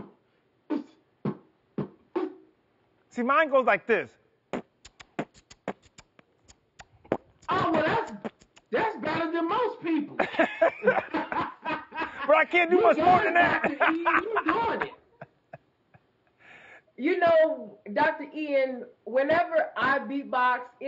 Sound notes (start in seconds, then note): 0.1 beatbox percussion; 4.5 beatbox percussion; 10.1 all laugh